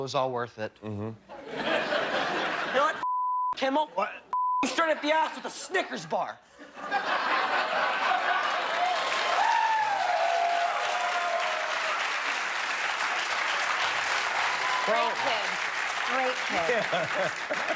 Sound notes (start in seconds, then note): 6.5 laughter; 13.0 cheers and applause